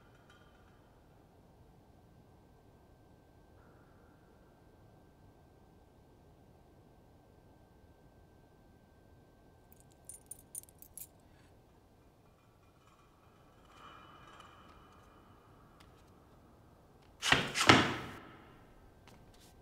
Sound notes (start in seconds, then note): 17.6 loud foot thuds echo